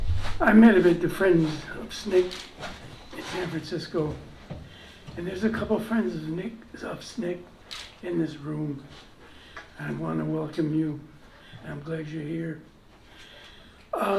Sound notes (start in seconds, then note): none